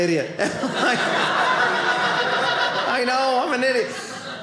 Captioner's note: audience laughing